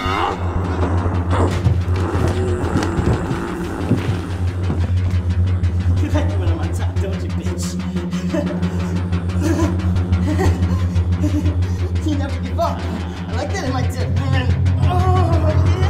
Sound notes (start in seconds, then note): 0.3 zombies groaning; 9.0 laughing